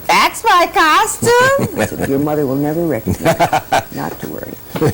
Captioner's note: laughter